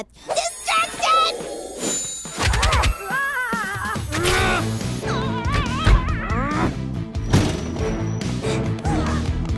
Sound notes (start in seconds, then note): 2.7 yells